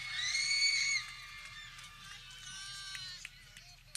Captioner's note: people cheering